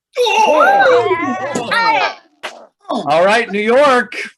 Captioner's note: group cheering and gripping